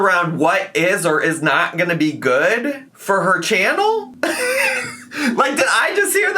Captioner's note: laughs